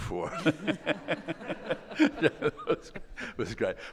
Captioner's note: all laughing